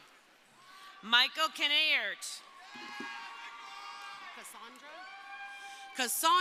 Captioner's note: crowd cheering